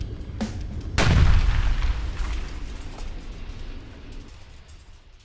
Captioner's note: aircraft crashes